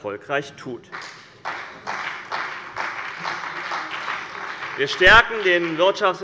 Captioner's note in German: Beifall bei dem BÜNDNIS 90/DIE GRÜNEN und der CDU